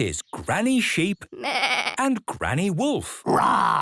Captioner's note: bleating; roaring